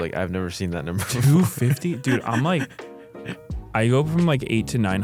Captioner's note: laughs